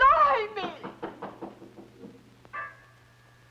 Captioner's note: knocking